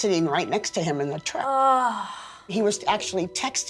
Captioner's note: groaning